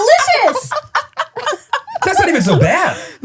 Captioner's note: laughing